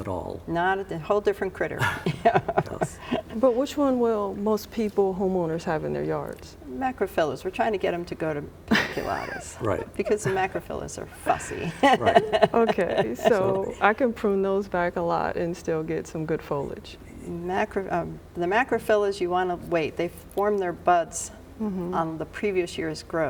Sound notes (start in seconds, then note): 1.8 chuckling; 8.7 laughing